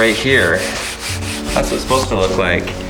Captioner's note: scratching